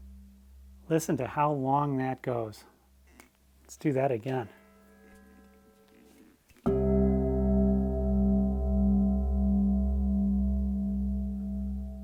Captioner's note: bell rings